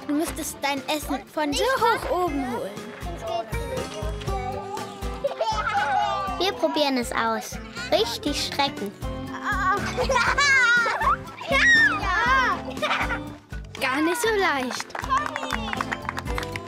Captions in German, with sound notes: du müsstest dein Essen von so hoch oben holen. (Kichern) Wir probieren es aus. Richtig Strecken ... (Lachen) Gar nicht so leicht. Conni!